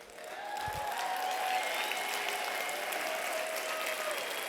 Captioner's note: applause